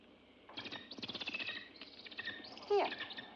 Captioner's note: bird chirps